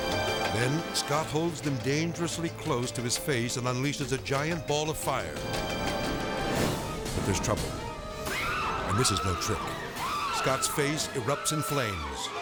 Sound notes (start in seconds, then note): 5.5 fire blaring; 8.3 screaming